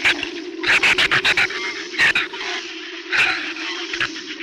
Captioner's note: shrews chatter